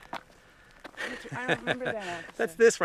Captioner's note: laughs